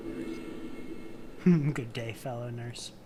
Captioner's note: amused noise